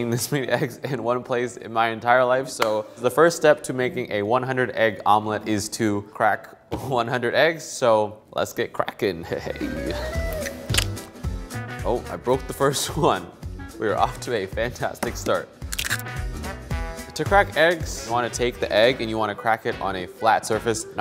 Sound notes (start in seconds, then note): 10.2 funky music; 10.4 egg cracks